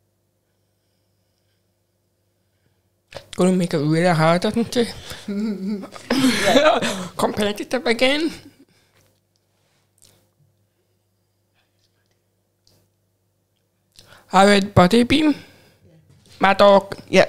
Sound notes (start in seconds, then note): 5.0 laughs